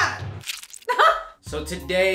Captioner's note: squishing; laughs